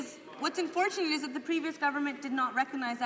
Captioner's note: applause